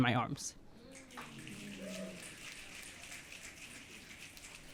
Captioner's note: audience clicking